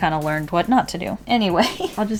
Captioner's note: laughs